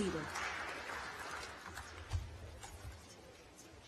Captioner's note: applause